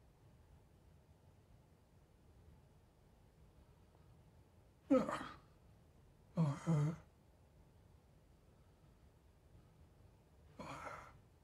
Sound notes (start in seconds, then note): 4.9 muttering in despair